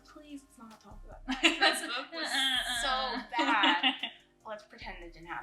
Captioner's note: laughs